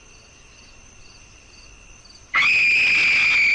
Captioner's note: crickets chirping; person screaming